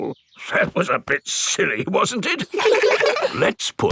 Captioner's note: in teddy's voice; in normal voice; kids laugh